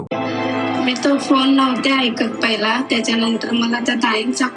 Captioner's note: speaking non-english